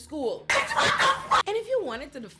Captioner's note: laughing